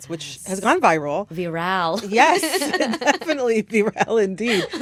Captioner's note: laughter